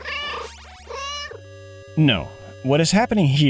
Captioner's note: meow